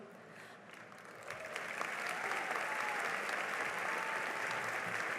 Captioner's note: cheering and applause